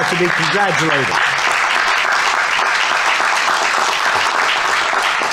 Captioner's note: audience applauding